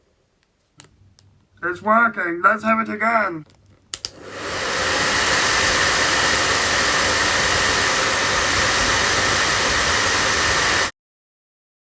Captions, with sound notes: It’s working! Let’s have it again. [hairdryer]